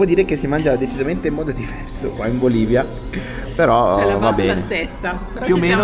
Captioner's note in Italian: schiarire la voce